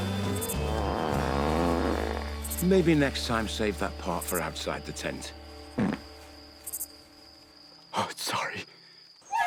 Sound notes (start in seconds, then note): 0.6 Hatfield breaks wind; 5.7 Hatfield breaks wind